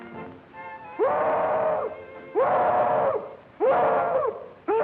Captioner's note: hollering